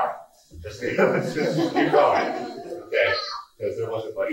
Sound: laughing

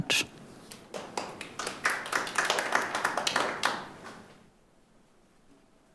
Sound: audience applauding

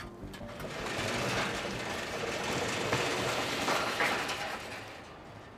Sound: gate opens

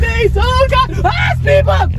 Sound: scream

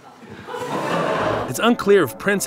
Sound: audience laughs

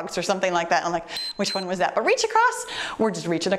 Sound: timer beeps

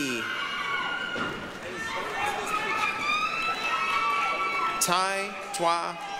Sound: applause, cheering

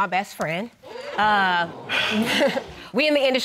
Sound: crowd gasping

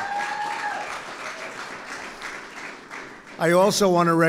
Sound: applause

